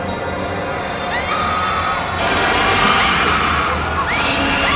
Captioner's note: screaming